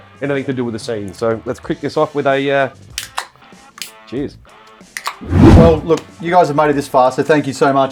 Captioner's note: can opening